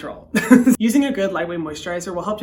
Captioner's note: laughing